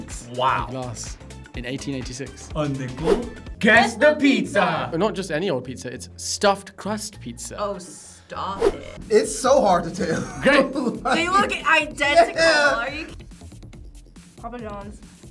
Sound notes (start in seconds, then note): 9.9 laughs